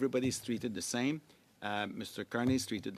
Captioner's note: speaking French